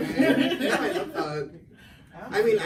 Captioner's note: laughs